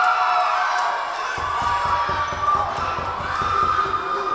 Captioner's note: Tigers cheering